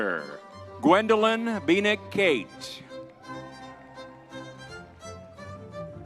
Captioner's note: crowd cheering